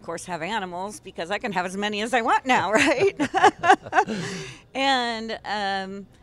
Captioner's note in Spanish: Risas